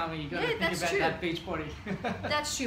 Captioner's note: chuckles